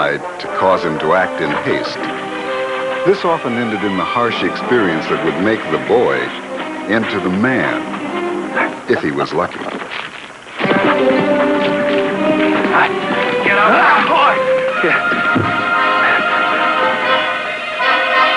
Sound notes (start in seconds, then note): 8.8 chuckling; 10.5 hooves beating; 15.2 thud